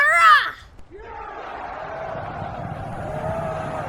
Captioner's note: Imperials Cheer